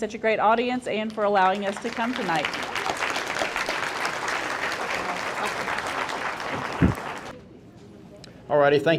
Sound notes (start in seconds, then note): 1.6 audience applauding